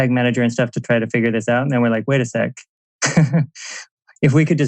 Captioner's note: laughs